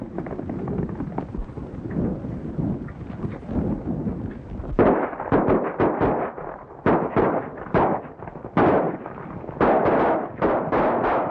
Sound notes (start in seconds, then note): 0.0 horses galloping; 4.7 guns firing